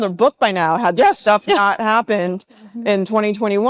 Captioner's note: laughs